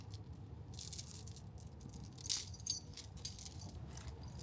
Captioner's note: chain clanking